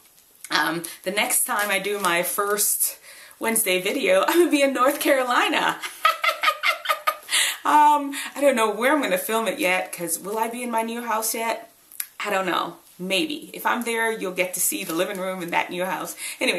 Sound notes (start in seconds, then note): 5.7 laughs